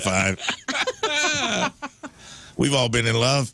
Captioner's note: laughing